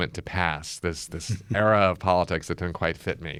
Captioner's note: laughs